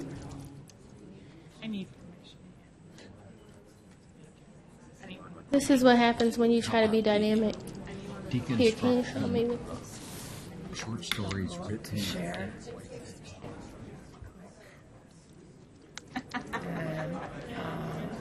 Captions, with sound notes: - [Voiceover] I need permission, yeah. - [Voiceover] This is what happens when you try to be dynamic. BitLy. - [Voiceover] Short stories written in...